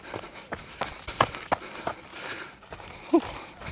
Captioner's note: footsteps